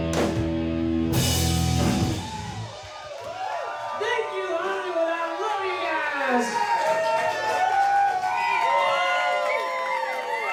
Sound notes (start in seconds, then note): 7.0 crowd cheering